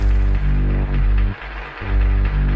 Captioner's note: applause